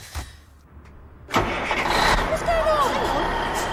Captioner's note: engine starts